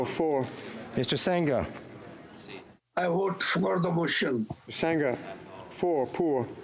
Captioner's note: speaking FRENCH